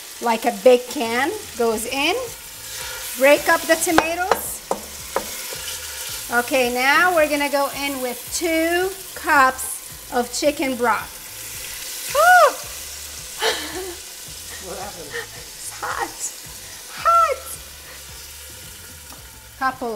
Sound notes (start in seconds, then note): 13.3 gasps; 13.3 laughs